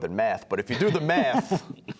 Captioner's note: laughter